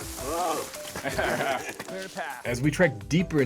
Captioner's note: laughs